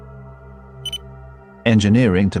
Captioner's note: com chime